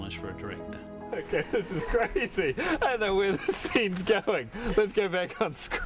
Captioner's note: laughing